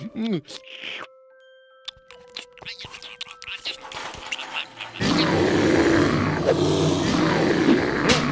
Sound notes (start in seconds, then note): 6.5 bear growling